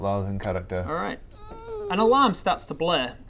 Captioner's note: eeeeeep